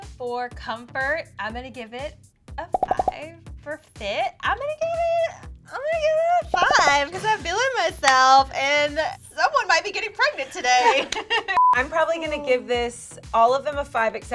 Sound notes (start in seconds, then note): 10.6 laughing; 11.2 beeping